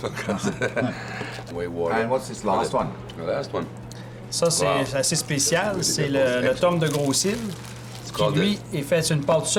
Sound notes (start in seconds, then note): 0.0 they laugh; 4.1 speaks french